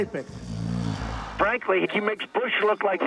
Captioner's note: snoring